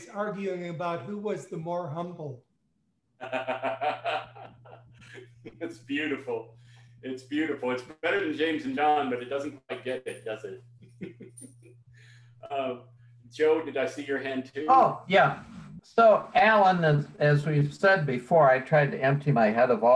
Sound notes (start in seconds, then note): 3.2 laughs; 10.7 laughs